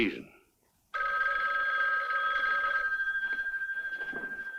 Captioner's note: phone ringing